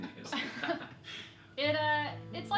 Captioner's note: laughing